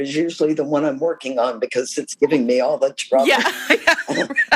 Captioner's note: laughter